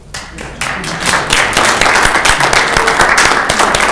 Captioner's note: clapping